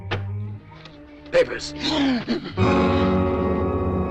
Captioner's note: papers gasping; dramatic music